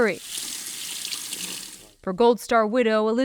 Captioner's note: water running